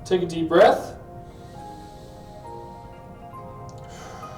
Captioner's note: inhales; exhales